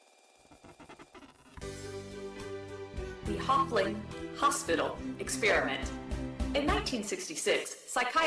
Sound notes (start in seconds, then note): 1.1 1950s doo wop band music; 3.4 computer voice